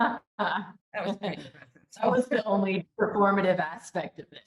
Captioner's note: laughs